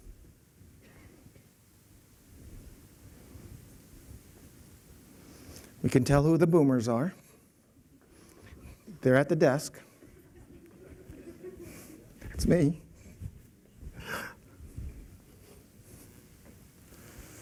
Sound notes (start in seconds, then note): 10.0 laughter